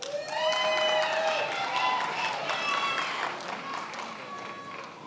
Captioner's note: attendees applauding and cheering